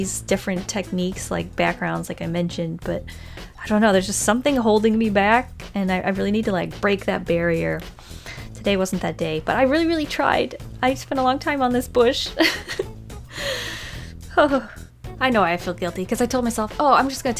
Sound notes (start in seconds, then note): 12.4 laughs